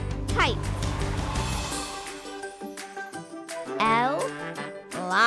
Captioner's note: wind gust